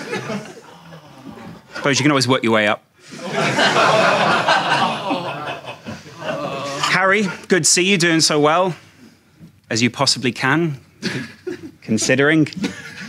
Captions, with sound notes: (audience groans) But you can always work your way up. (audience laughing) Harry good to see you doing so well, as you possibly can, considering...